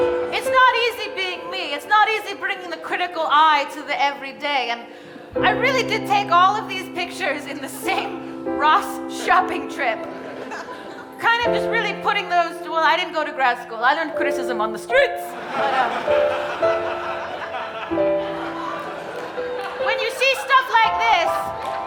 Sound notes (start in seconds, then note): 15.2 audience laughing; 18.1 gentle bright music